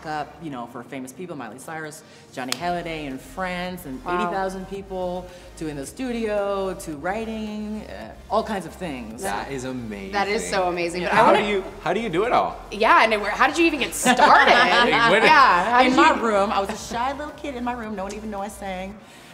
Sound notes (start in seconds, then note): 14.0 laughing